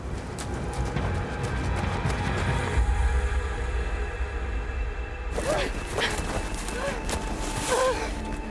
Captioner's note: whistles